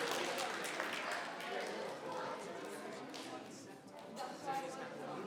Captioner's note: members clapping; people chattering